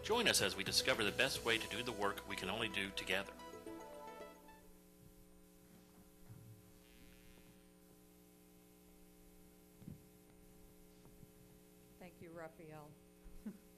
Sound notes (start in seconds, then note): 7.4 silence